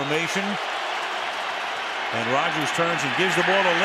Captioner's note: cheering